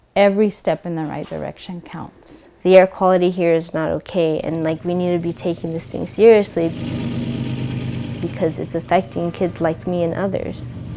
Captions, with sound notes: every step in the right direction counts." "The air quality here is not ok and like we need to be taking this thing seriously... (train engine) ...because it's affecting kids like me and others."